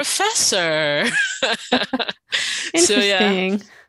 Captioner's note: laughs